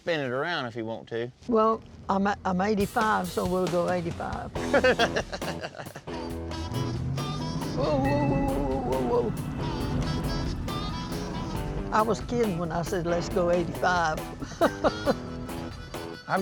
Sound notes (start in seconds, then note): 4.5 laughs; 6.1 car accelerates; 15.5 laughs